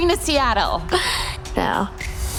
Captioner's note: laughing; soundtrack bangs